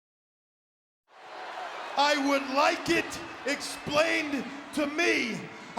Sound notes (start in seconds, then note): 1.1 crowd cheering